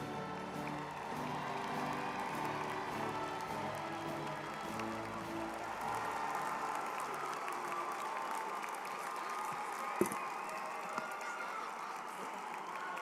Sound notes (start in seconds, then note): 2.0 crowd applauding; 9.2 people chattering